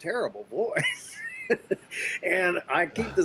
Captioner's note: laughs